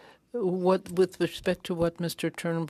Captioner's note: speaking French